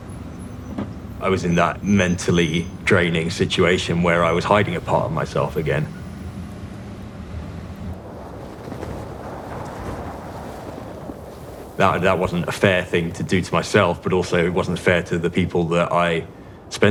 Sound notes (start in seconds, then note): 8.1 wind whistling across the mountain; 9.8 boots kicking into the deep snow